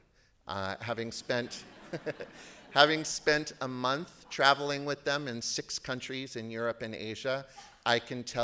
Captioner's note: laughter